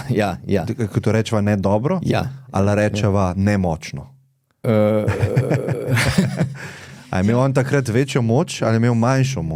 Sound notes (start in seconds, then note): 4.7 laughs